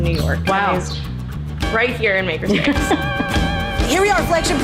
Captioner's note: laughs